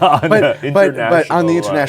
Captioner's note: laughs